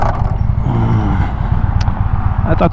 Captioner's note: groan